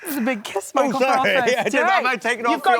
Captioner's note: laughing